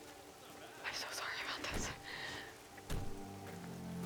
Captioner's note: car doors shutting